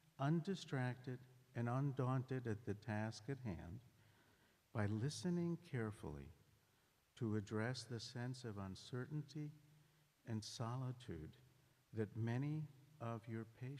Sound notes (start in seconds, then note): none